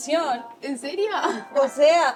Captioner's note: laughing